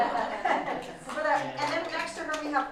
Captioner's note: laughter